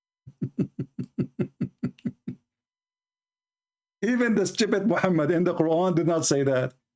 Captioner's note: Ketawa